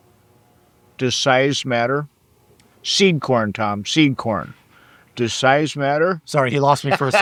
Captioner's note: laughing